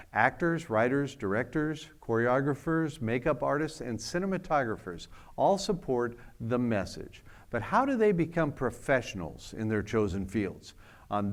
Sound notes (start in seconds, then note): none